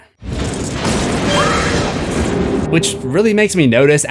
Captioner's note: screams